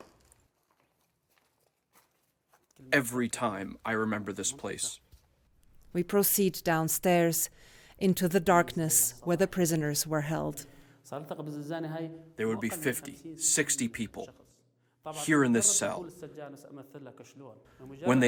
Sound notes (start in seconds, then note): 6.8 voice-over; 13.4 through translator